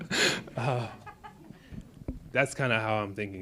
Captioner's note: audience laughs